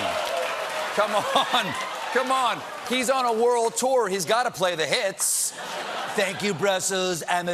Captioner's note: audience reacts